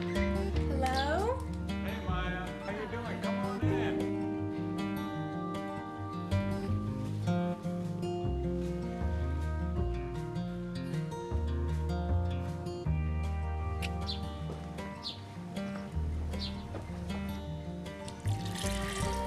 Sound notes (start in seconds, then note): 14.1 lips click; 17.3 birds chirping